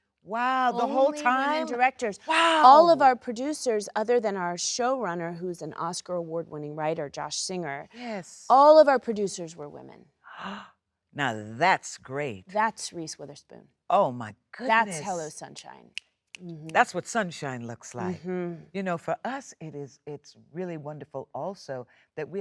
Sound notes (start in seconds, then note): 10.6 Sheryl Lee gasps; 15.9 fingers snapping